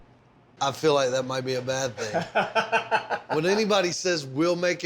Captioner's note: laughs